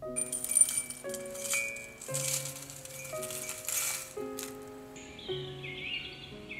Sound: tea tinkles against porcelain cup; birds chirping

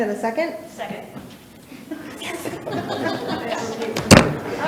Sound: all chuckling

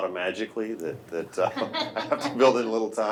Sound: laughing

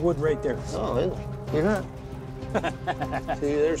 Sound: laughs

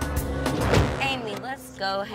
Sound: car door shuts

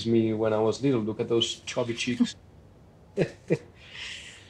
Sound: laughs

